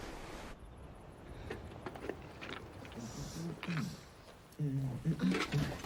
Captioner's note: clattering; man humming